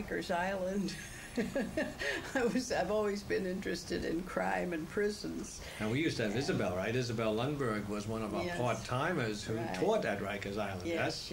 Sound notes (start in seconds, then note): 0.6 laughs